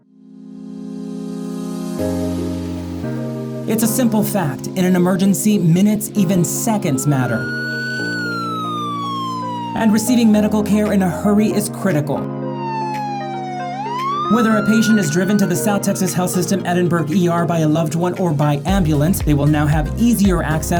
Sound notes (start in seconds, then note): 0.2 inspiring music; 6.8 siren wails